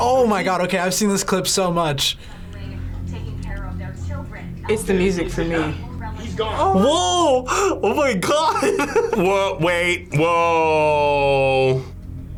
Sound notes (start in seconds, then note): 2.9 ominous music; 8.2 laughs